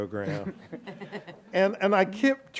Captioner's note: laughs